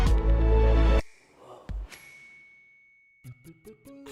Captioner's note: gentle music; chimes tinkle